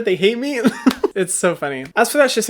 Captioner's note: laughs